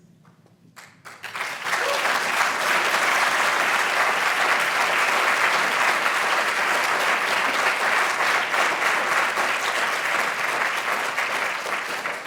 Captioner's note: applause